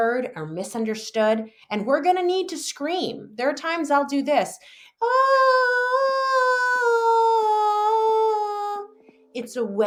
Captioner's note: vocalizes